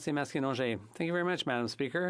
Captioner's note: speaking French